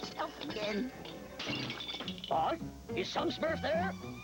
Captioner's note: glass breaking